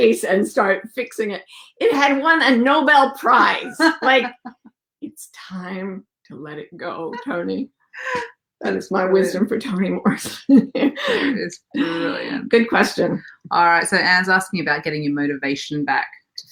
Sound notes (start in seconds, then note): 3.2 laughs